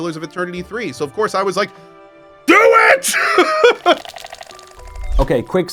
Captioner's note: laughs